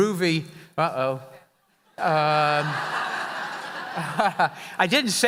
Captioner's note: audience laughing